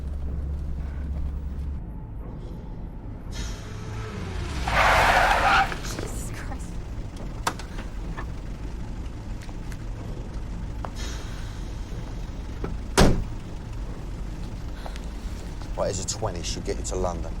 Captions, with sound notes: - ( tires screech ) - JESUS CHRIST. RIGHT, HERE'S A 20. SHOULD GET YOU TO LONDON.